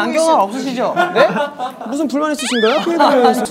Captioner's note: boo